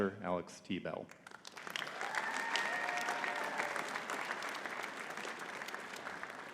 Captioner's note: audience cheering and clapping